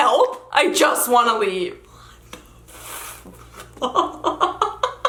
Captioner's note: laughs